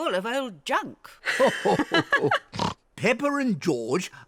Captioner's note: grandpa and granny laugh